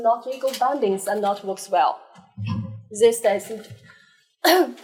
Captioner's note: coughs